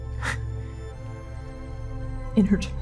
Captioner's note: sharply exhaling